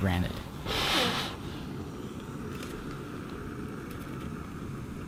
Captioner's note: stove rumbling